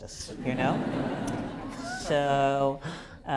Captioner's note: laughter